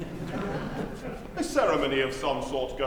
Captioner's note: laughter